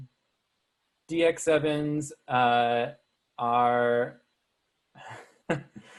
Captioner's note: chuckles